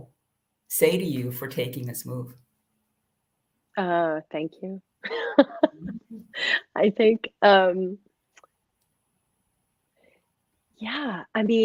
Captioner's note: laughter